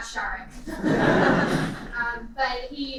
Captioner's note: laughter